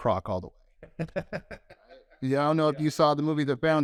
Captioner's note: laughs